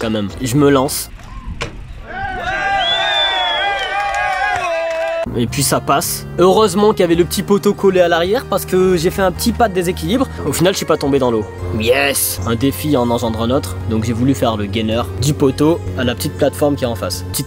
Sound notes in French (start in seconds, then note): 1.2 Applaudissements